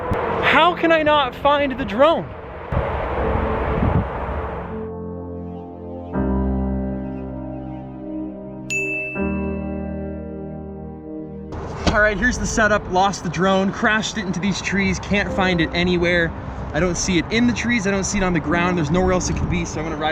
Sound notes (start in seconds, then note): 2.6 melancholy music; 8.7 ding